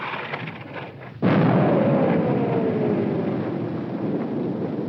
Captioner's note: bomb exploding